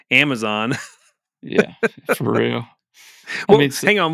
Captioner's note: laughs